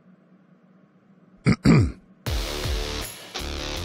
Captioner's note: clears throat; rock music begins